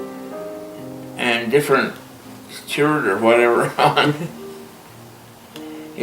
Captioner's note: laughing